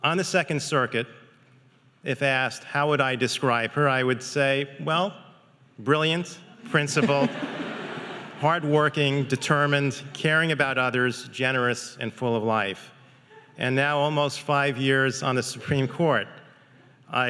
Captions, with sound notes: On the Second Circuit, if asked how would I describe her, I would say, "Well, brilliant, principled, (audience laughing) "hardworking, determined, "caring about others, generous, and full of life." And now, almost five years on the Supreme Court,